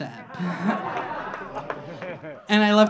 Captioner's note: audience laughing